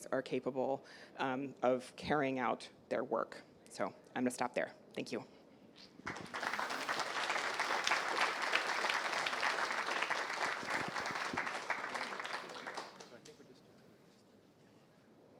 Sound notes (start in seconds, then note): 5.9 applause